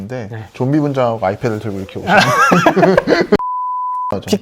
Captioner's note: chuckling